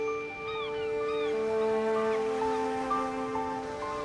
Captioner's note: gulls squawking